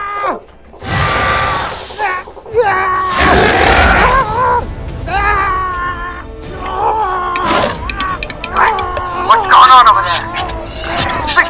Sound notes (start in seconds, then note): 3.1 attack sounds; 10.4 continued struggle sounds